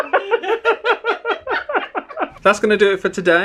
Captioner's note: both laugh